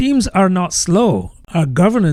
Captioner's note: uh